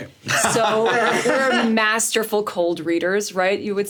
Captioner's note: SungWon and Richard laughing